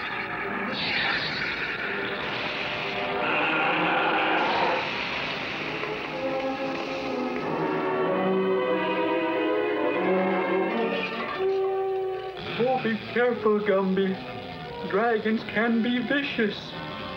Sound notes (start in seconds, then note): 3.1 roaring, Water Fizzing Flames; 8.0 dramatic Music